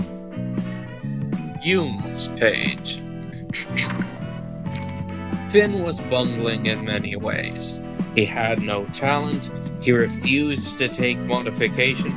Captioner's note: clearing throat